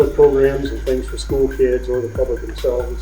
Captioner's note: laughing